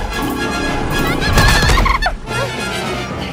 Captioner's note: glitched groaning